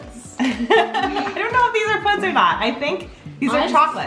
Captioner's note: laughs